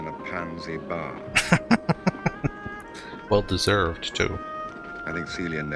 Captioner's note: laughing